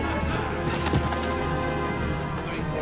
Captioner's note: thud